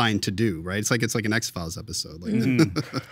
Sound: laughing

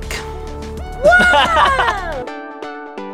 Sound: laughs; shouts excitedly

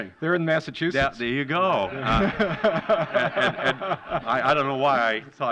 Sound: laughter

